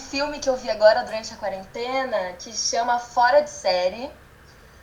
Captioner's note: none